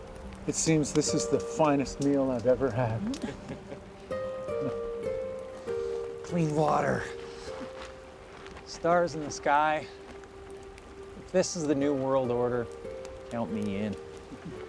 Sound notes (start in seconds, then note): 2.9 Vogel chuckles